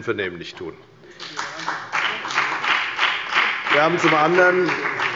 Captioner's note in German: Beifall bei der FDP und bei Abgeordneten der CDU